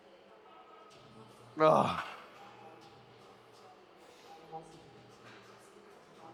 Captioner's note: grunts